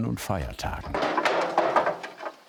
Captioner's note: clattering